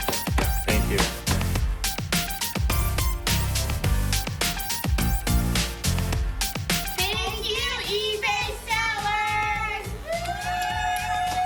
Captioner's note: clapping